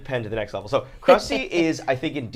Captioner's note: laughs